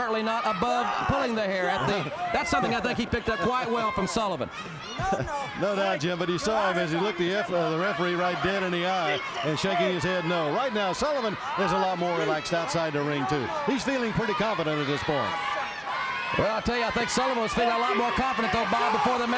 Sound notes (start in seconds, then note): 16.1 crowd chatter